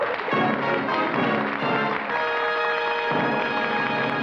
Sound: applause

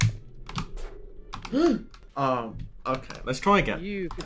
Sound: gasp

